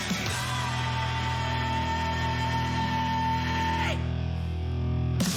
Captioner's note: man shouting vocally